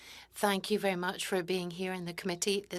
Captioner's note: speaking French